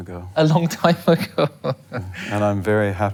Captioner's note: laughing